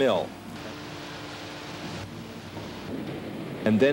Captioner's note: engine running